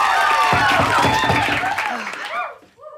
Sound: knock on door

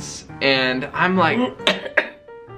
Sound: coughs

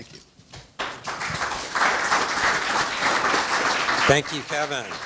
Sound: audience applauds

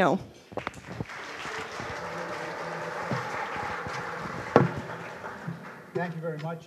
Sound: applause

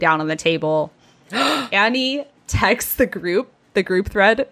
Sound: gasps

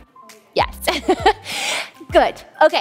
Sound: laughs

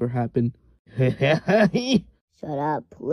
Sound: laughs

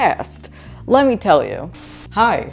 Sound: static noise

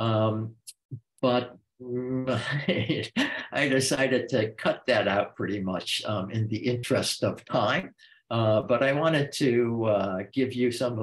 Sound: chuckles

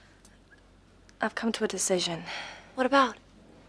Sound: none

